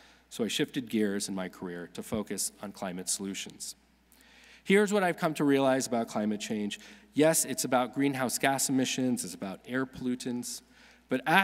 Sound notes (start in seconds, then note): none